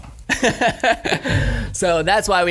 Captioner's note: laughs